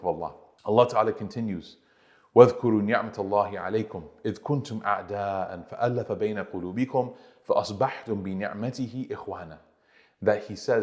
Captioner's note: Arabic